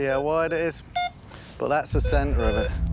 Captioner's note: beeps